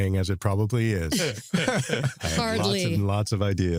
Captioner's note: laughter